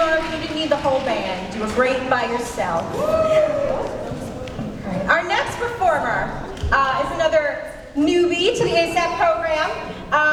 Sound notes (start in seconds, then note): 2.9 cheers